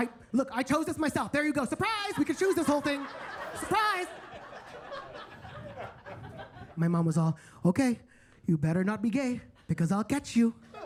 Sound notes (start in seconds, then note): 4.6 attendees laughing